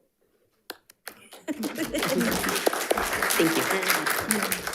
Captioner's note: audience applauds